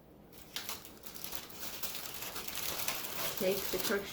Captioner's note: foil crinkles